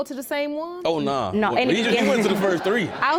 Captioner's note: audience laughs